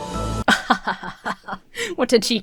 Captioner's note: Emma laughs disingenuously